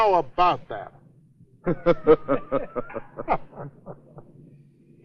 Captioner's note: laughter